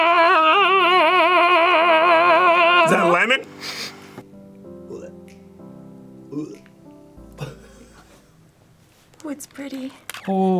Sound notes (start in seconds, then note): 3.6 sniffs